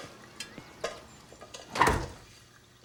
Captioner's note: door closes